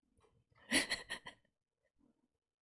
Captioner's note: laughs